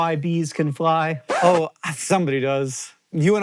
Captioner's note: record scratch